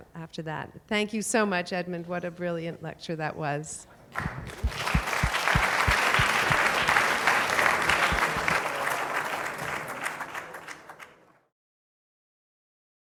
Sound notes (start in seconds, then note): 4.1 applause